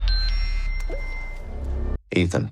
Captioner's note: electronic beeping